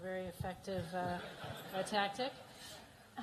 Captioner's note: laughter